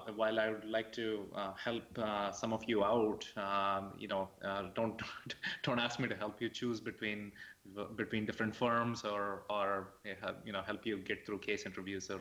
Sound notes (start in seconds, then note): 5.1 laughs